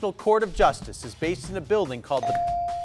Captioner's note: bell dinging